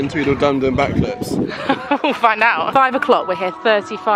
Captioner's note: laughing